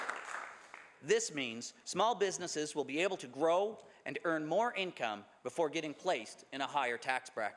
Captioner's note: some Applause